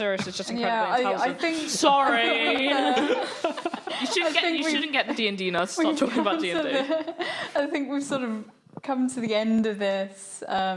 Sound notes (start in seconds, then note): 2.0 laughing